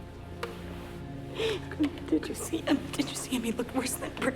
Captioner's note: sobs